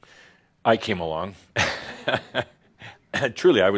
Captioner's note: Adamus chuckles